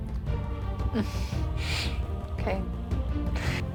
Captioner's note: sighs